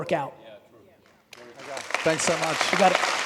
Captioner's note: audience applauding in agreement